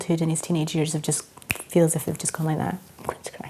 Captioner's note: fingers click